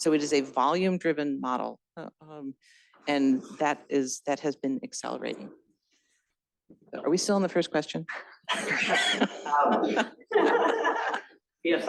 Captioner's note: laughter